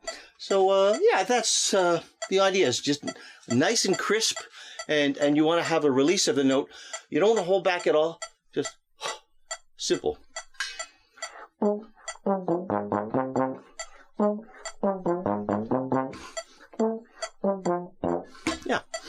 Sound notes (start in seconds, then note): 9.2 breath; 14.0 playing trombone